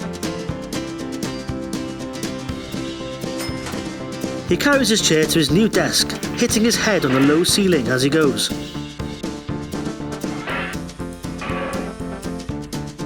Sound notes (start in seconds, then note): 7.7 clanging sound